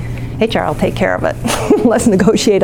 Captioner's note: laughs